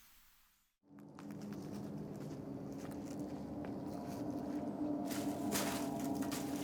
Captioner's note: leaves crunch; ominous music